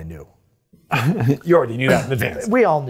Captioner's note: chuckles